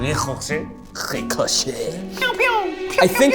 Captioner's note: in French accent